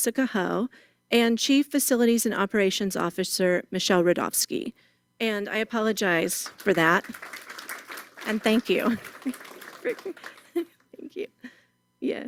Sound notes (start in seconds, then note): 6.3 applause